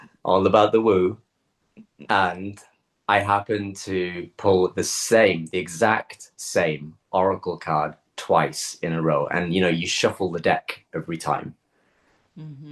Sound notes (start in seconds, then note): 2.1 woo